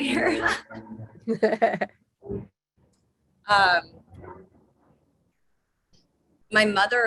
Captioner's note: laugh